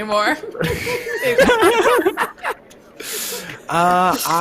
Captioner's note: all laughs